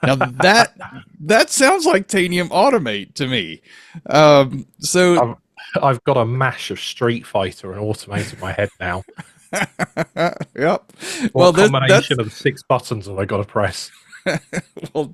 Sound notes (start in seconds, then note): 9.5 laughs